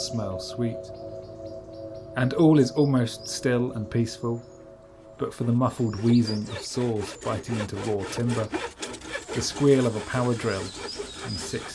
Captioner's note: sound of rasping saw and drill